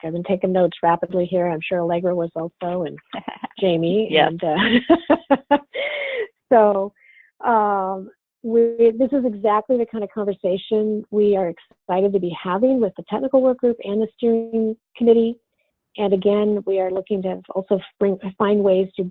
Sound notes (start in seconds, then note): 4.4 laughs